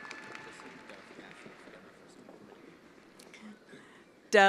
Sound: attendees applauding

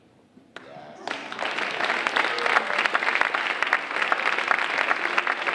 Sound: audience applauding

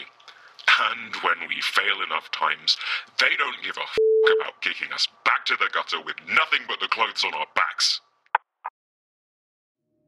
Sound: call ends

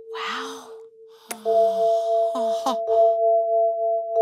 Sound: gem chimes

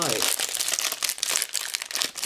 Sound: opens packaging

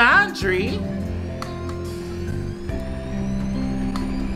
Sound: washer runs

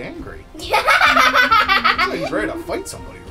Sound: laughing

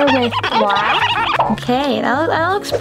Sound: marker screeches

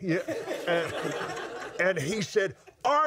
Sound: laughs

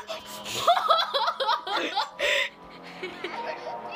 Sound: laughing

